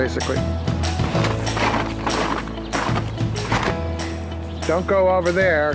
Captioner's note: snow crunching